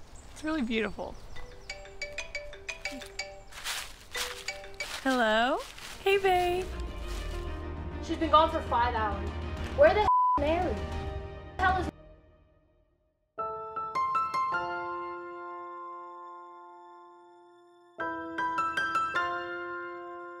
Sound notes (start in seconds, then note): 1.7 phone ringing; 11.4 beeping; 13.4 soft orchestral music